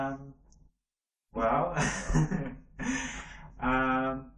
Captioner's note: laughs